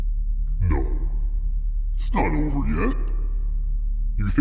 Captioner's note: evil humming; evil tiki voice